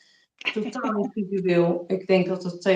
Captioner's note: laughs